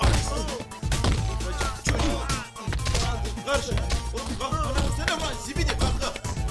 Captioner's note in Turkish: kavga dövüş sesleri̇